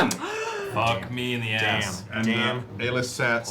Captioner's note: gasps